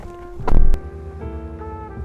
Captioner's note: door opens; soft saxophone music; door slams